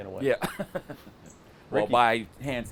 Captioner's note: laughs